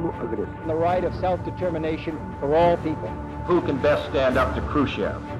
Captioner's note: John Fitzgerald Kennedy speaking